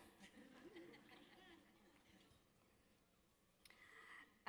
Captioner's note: audience laughing